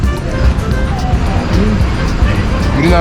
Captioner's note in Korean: 자동 돌고래 소리